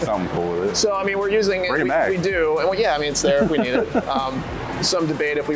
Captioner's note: giggles